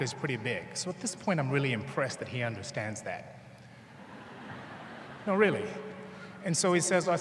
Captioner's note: laughter